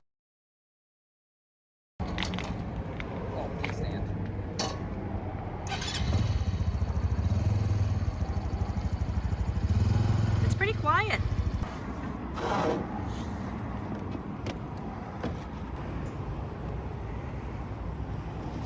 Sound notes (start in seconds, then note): 8.4 engine Sounds; 8.4 engine Starts